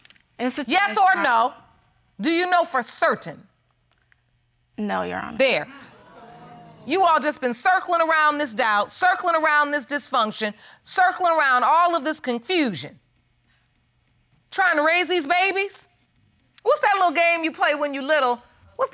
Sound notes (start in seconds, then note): 6.0 audience exclaiming